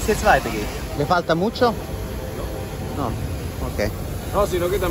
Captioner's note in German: auf Spanisch